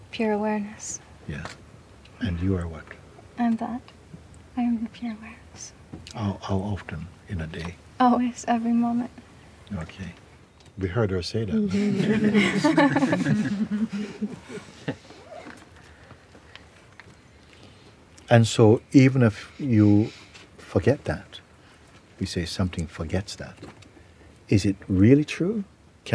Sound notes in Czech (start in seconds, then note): 16.7 smích